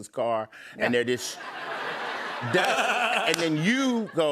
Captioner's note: laughter